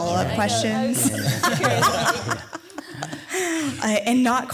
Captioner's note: laughing